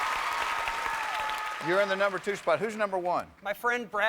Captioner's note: cheers and applause